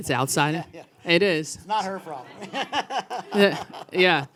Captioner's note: laughs